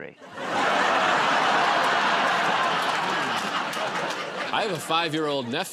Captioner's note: laughter